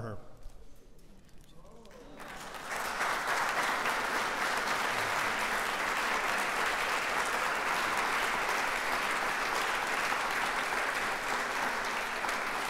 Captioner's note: applause